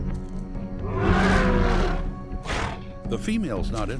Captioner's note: roars